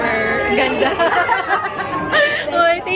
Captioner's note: laughs